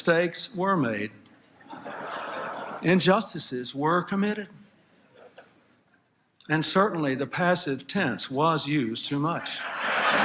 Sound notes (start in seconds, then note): 1.6 laughter; 9.6 applause, Laughter